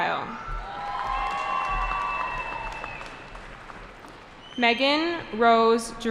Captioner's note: cheering